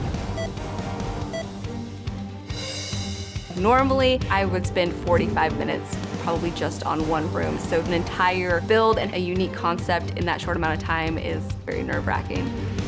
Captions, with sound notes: (timer beeping) - Normally I would spend 45 minutes probably just on one room, so an entire build and a unique concept in that short amount of time is very nerve wracking.